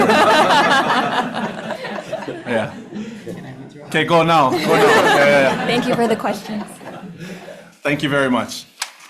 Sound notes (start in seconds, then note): 0.0 audience laughing